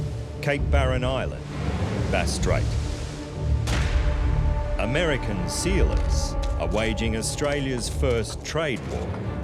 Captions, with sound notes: Cape Barren Island, -Bass Strait. -[waves crashing] American sealers are waging Australia's first trade war.